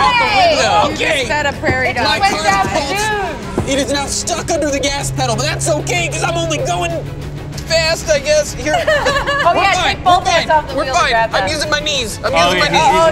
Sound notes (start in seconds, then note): 8.6 laughs